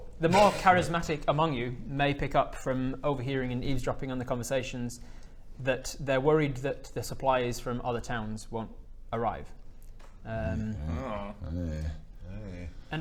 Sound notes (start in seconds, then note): 10.3 concerned noises